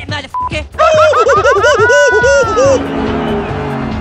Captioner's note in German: Schreiend